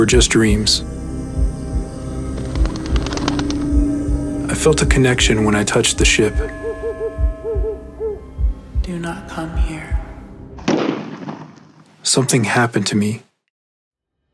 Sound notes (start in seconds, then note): 0.1 wings flapping; 6.1 owl hooting; 10.6 gunshot